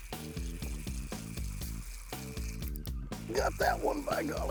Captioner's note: reel zinging